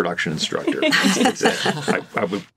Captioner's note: all laughing